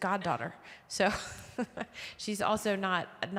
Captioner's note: chuckling